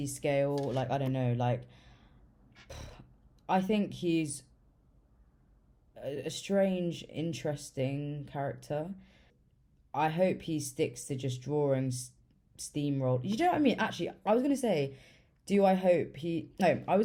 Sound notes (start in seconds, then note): 2.5 pfft